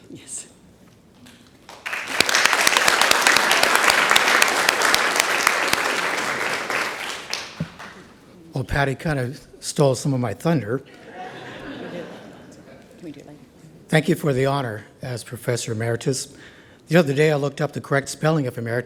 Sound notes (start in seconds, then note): 1.2 audience claps; 10.9 audience laughs; 12.1 background chatter